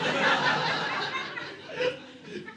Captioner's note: audience laughing